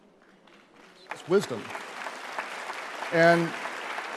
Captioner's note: audience applauding